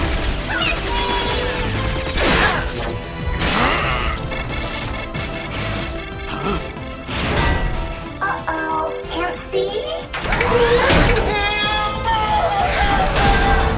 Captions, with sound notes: Missed me! [grunting] Huh? Uh-oh, can't see? Timber!